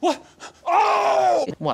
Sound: tom, offscreen: OHHHHHHH!!!

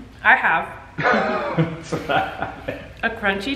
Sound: laughs

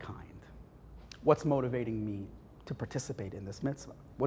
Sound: Hebrew

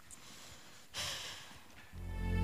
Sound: sighs; sad music

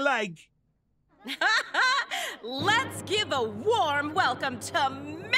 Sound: laughing

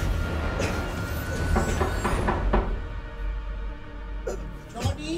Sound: knocking on door

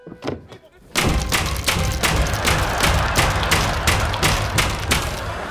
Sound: banging

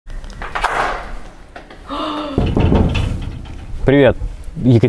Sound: knocking

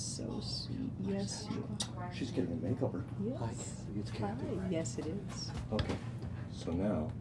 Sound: none

